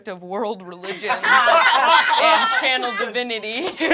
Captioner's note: laughter